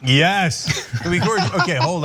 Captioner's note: laugh